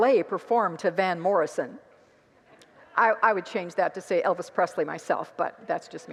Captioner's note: congregants laugh